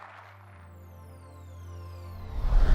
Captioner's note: applause